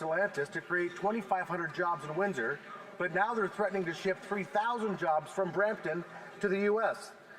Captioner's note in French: voix de l'interprète